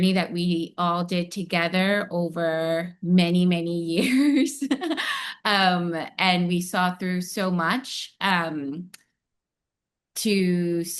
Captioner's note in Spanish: risas